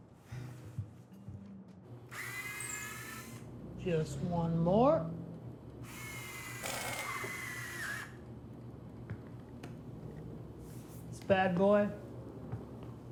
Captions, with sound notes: - Definitely. (drill whirring) - Just one more. (drill whirring) This bad boy is ready to go.